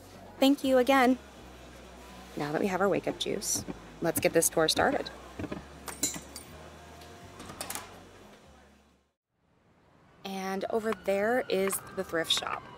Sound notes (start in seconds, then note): 5.6 sound fades out; 9.4 sound fade in, City Noises